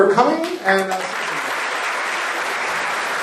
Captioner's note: applause